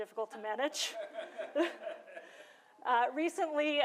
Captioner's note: laughter